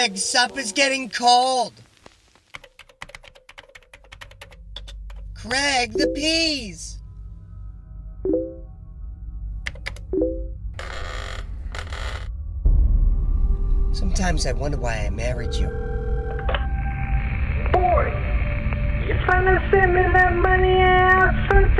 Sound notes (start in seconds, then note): 2.5 typing; 10.7 chair creaking